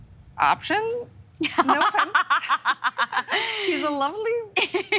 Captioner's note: laughing